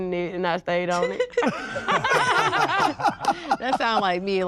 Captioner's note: all laugh